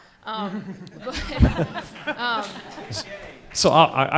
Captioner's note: laughing